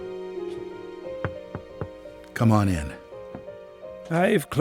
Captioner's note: door knocks